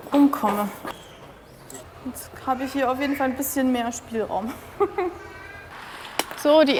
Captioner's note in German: lacht